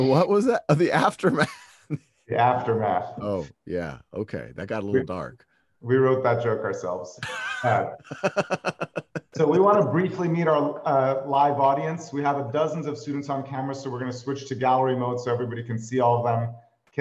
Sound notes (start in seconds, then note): 1.9 laughs; 7.2 laughter